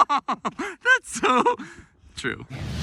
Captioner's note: laughs